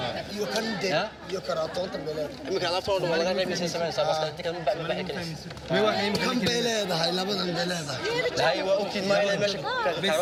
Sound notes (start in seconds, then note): 0.7 people speaking foreign language